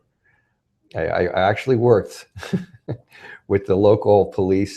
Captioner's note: laughs